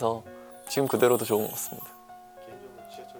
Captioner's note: sparkling sound effect